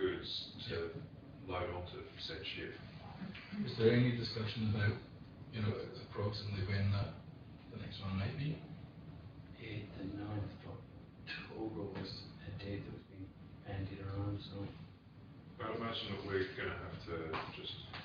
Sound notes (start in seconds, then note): none